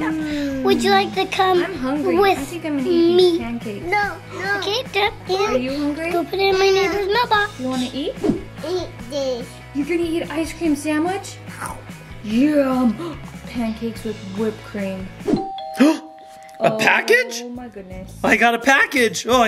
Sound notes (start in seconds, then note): 11.4 character slurping; 15.4 doorbell ringing